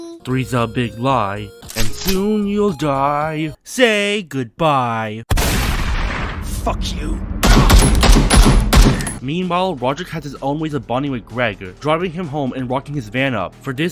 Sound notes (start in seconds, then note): 5.3 gunshot; 7.4 gunshots